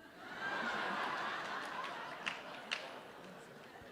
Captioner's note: laughs